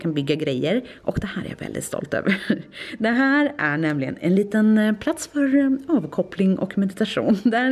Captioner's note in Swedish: skratt